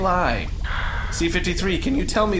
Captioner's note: C-53 sighs